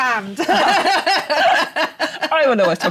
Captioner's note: laughter